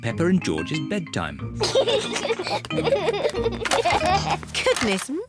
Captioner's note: both giggle